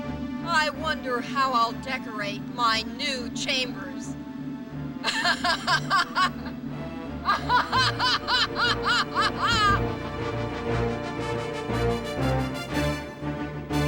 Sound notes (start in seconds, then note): 4.9 Ursula laughs; 10.0 upbeat music